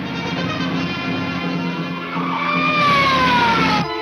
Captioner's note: police siren blares